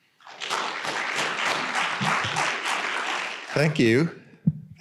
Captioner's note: audience applauding